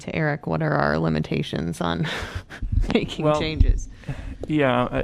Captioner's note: laughter